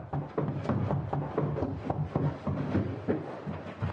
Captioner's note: footsteps